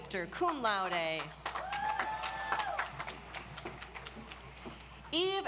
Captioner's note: audience applauds